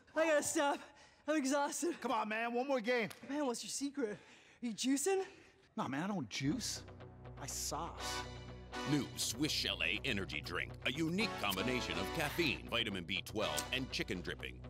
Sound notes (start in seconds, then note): 8.8 voiceover